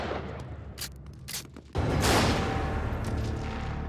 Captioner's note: gunshot